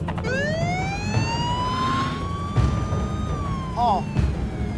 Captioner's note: police siren wailing